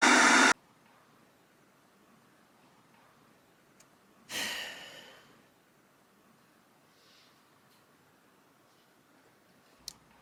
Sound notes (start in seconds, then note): 0.0 disturbance hissing; 4.3 sighs